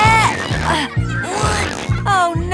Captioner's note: grunting